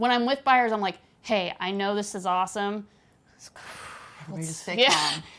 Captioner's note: exhales breath